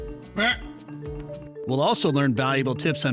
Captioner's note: deer bleats